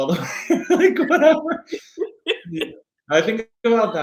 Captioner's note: laughing